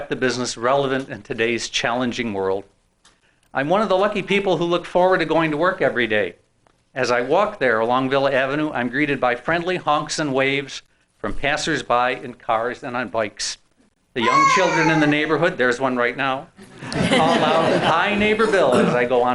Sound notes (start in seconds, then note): 14.2 child wailing; 16.7 laughing